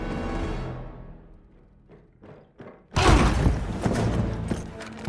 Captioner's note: door closes